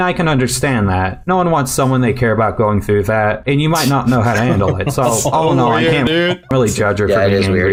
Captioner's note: laughs